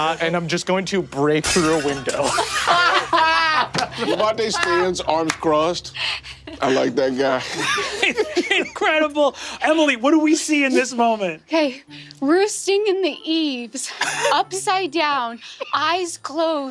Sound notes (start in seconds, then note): 2.6 Ally bursts into laughter; 8.6 laughs